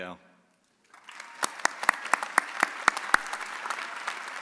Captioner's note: audience applauding